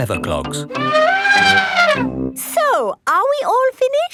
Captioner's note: trumpeting